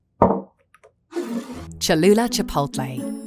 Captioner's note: bottle thuds and scrapes